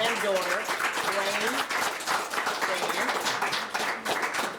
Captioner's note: audience clapping